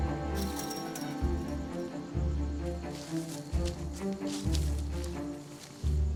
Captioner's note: suspenseful music; gate rattling